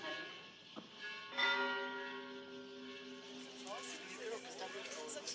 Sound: bells ringing; indistinct chatter

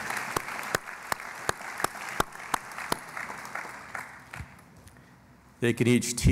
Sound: applause

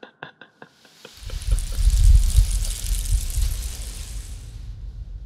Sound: man quietly laughing; snake slithering

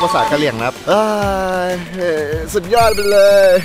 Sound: sighs

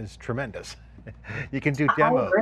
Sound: chuckles

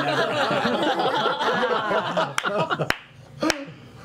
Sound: laughter

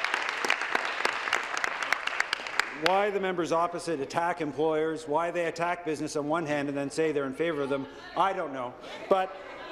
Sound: applause

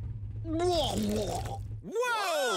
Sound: vomits

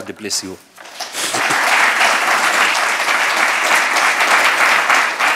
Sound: audience applauding

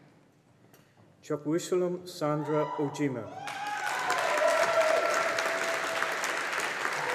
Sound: audience applauding

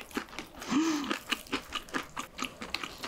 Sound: crunchy

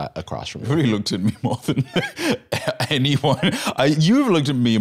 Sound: laughs

